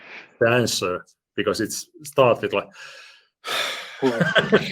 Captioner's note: deep sigh; laughter